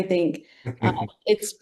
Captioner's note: laughs